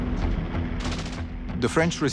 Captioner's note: guns fire